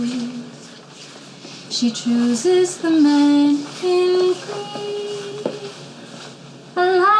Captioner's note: shuffling sounds of passersby